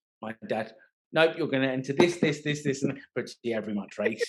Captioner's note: laughing